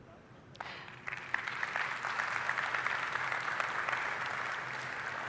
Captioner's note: applause